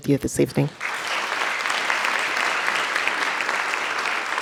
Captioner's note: audience clapping